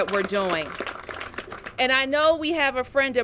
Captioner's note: applause